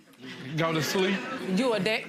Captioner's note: audience laughs